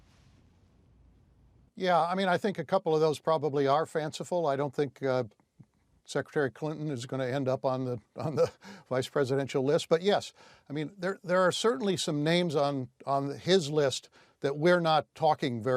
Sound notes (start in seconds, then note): 8.2 laughs